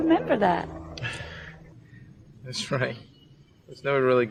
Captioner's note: laughs